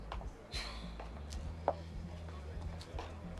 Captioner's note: Kate sighs; heels clacking; attendees chattering